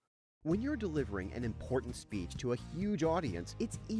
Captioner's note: voiceover